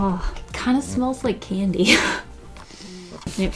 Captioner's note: laughs; laughs, deep inhale